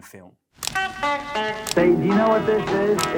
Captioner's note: camera shutter clicking; rock and roll music